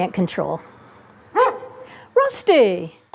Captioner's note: dog barks